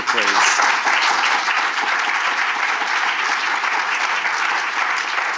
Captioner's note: audience clapping